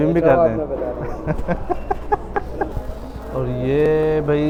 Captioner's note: laughing